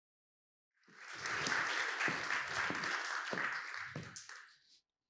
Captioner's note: applause